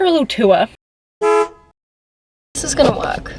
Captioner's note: honk